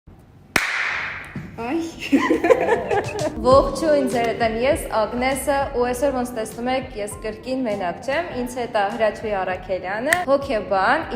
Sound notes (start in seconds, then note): 0.5 clap; 2.0 laughing